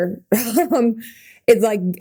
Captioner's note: Mikaela laughing